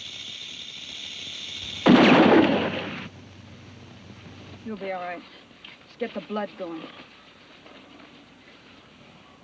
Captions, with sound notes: (gun bangs) - You'll be all right. Let's get the blood going.